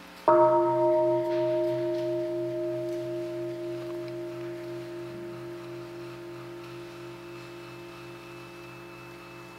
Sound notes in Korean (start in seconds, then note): 0.2 종소리